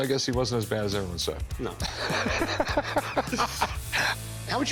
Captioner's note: laughs